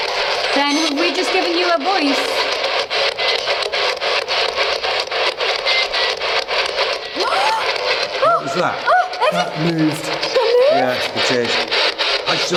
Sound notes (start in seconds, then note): 5.8 distorted speaking; 5.8 high-pitched beeping; 7.2 gasps